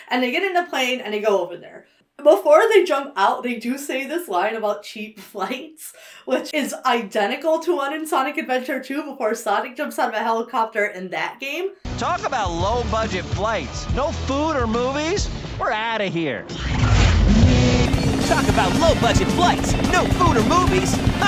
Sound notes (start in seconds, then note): 16.7 air whooshes; 17.5 rotors chopping